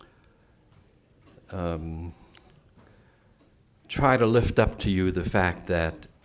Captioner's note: silence